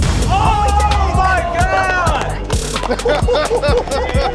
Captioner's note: cheering; laughing